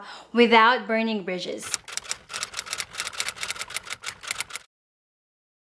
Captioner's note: keyboard clacking